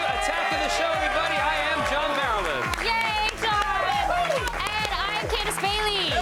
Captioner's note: cheers and applause